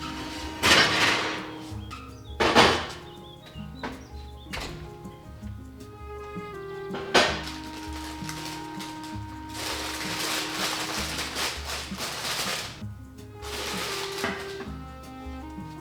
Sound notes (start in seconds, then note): 0.0 pot clanks on stove; 10.0 paper crinkles